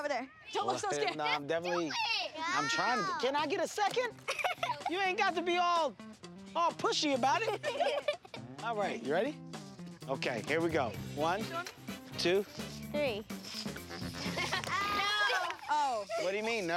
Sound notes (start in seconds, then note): 4.2 giggles; 7.2 laughs; 13.6 laughs